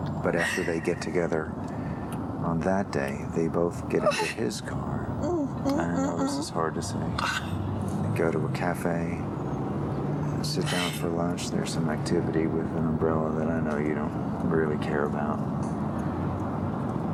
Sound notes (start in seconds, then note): 4.0 whimpers; 7.2 controlled sobbing